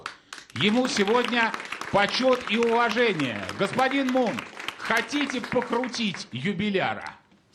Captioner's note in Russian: аплодисменты